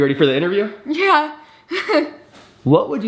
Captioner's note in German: lacht